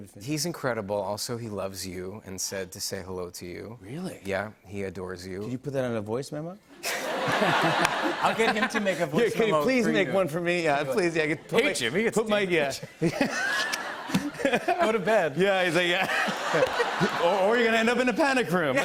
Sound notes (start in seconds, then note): 6.8 laughter; 12.7 laughter